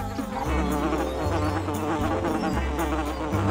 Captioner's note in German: Signal ertönt; summen; lautes Summen